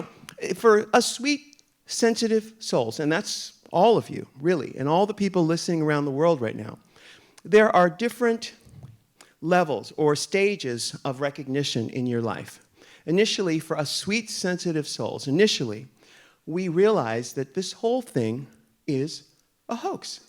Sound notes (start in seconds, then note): none